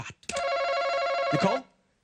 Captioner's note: buzzer